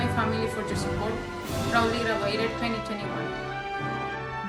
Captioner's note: foreign language